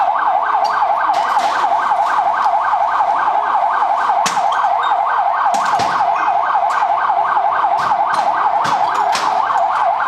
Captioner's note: rocks hitting armored truck